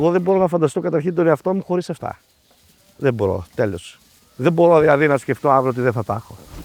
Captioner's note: speaking in foreign language